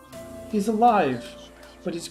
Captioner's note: creepy whispers